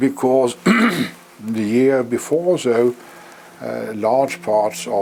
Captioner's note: cough